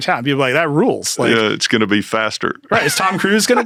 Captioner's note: laughs